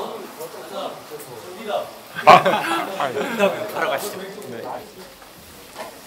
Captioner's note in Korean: 웃음